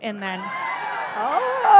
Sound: audience cheering

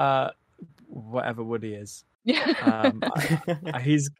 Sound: laughing

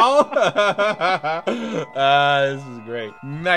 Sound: laughs

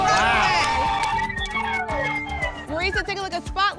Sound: cheering

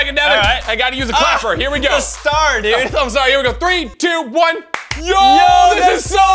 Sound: claps

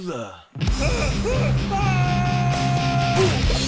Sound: screaming

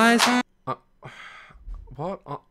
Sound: sigh

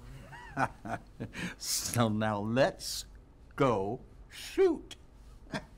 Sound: laughs

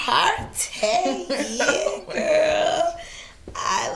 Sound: Keisha laughing

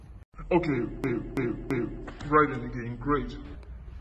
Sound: glitching

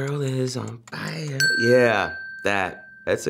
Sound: bell dings

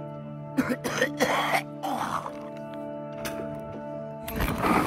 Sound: coughing

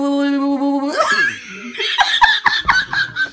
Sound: laugh

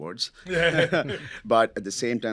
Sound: all chuckling

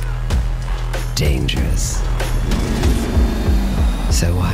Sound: roaring

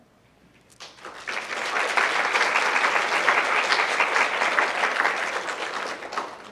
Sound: applause

